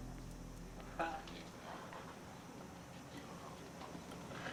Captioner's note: people chattering